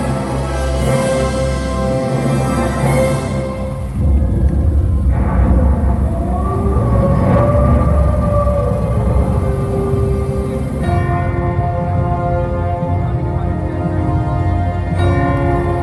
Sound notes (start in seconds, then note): 2.8 Thunder, Werewolf Howl; 10.6 Music